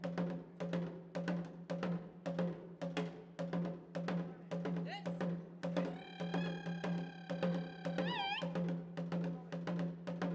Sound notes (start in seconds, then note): 0.3 drum beating; 6.2 shouting